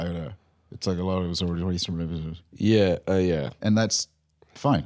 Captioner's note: speaking rapidly